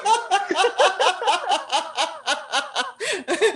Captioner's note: laughter